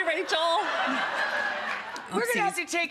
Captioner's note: audience laughing